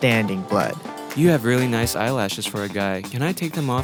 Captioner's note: voiceover